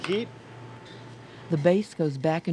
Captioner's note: voiceover